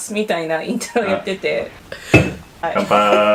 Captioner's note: house party intensifies